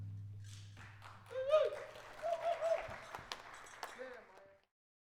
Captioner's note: people clap; person whoops